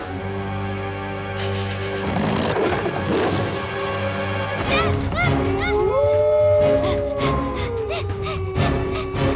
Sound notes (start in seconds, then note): 4.7 panicked shouts; 5.4 howling; 7.8 panting